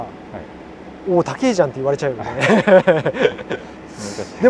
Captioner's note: laughs